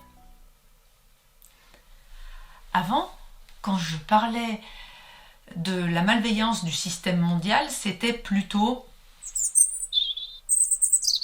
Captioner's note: sound effects